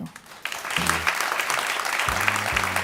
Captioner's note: ^applause^